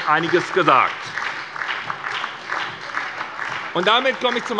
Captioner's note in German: Beifall bei der SPD